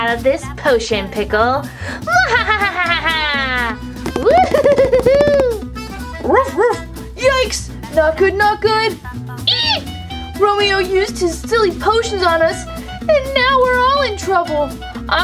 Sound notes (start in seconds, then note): 2.1 laughs evilly; 6.6 barks